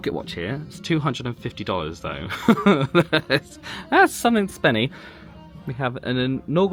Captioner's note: laughs